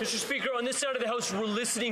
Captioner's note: some Applause